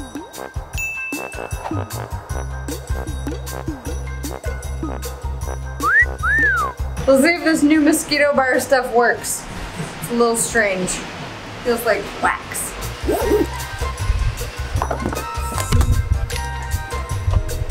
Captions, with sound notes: (cat call whistles loudly) - We'll see if this new mosquito bar stuff works. It's a little strange. Feels like wax. (upbeat music)